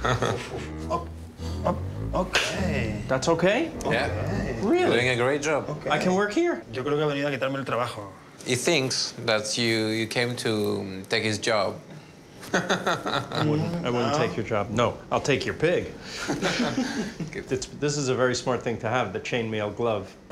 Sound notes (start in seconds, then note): 6.7 speaking Spanish; 12.5 laughs